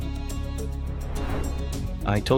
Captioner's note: transition whooshing